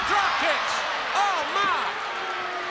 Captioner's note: crowd cheering